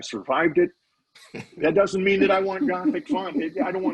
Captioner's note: laughing